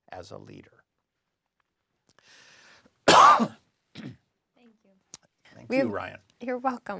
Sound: cough

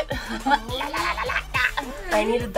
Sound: laughs goofily

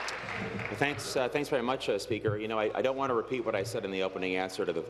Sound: applause

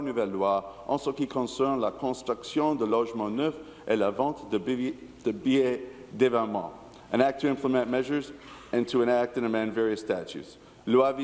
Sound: speaking in French

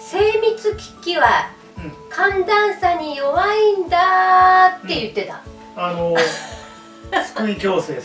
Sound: laughs

